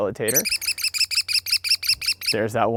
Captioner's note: american Kestrel calling